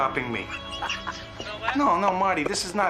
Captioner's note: Stonetree cackles